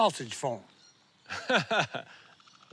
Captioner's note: laughs